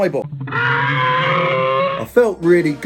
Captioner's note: person screaming